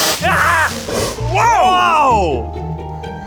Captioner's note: sparks flaring; device exploding